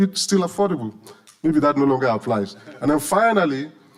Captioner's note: audience laughing